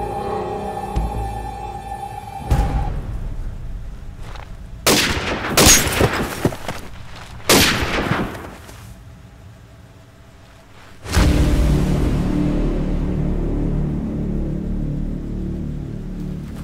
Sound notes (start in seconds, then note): 4.5 glass cracks; 4.5 gun firing; 7.4 gun fires; 10.8 intense music